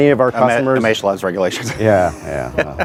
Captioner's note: laughs